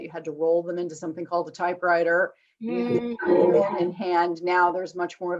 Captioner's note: murmurs